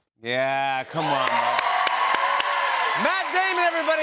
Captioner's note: cheers and applause